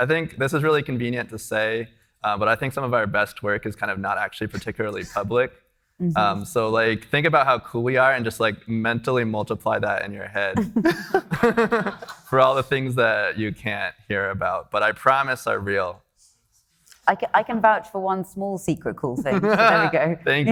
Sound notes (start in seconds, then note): 10.8 everybody laughing; 19.3 laughing